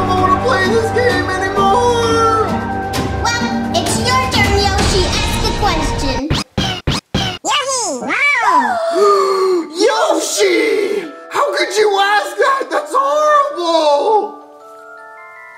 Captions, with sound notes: I don't know if I want to play this game anymore. - Well, it's your turn Yoshi, ask a question. - Yoshi! Wow! (gasps) - Yoshi! - Yoshi! How could you ask that, that's horrible!